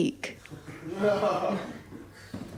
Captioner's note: laughter